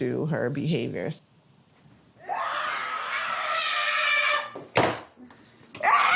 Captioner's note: screaming; screaming continues